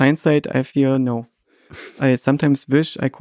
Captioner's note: Lex chuckles